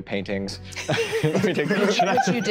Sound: group laughing

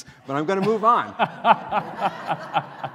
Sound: laughter

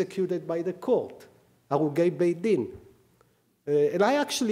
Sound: speaking hebrew

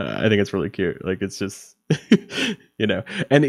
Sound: laughing

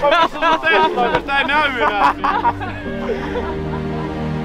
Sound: crazy Finnish laughter

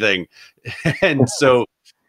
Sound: laughs

